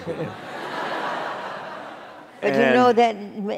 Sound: laughter

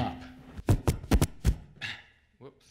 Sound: hands rubbing over mic creating interference noise

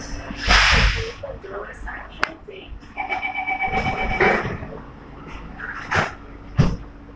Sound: buzzer sounds

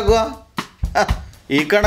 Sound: scoffs

